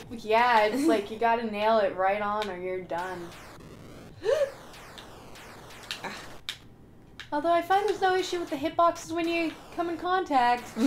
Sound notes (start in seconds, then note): 4.1 gasp